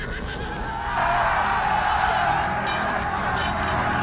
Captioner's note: gritos